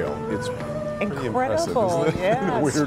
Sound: laughter

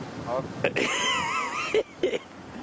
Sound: laughs

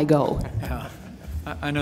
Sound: laughter

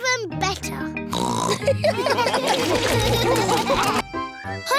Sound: snorts; laughter

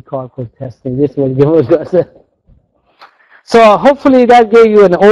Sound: laughs

